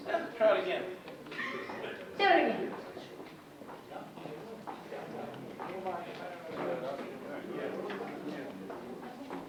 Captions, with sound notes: Try it again. - Do it again. (audience chatting indistinctly)